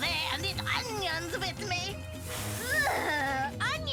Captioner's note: mist spraying; breath sizzling